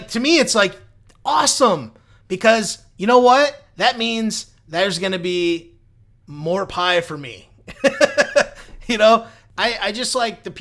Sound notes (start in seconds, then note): 7.7 laughs